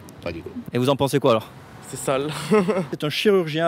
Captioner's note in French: rire